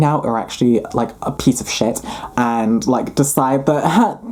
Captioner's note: laughing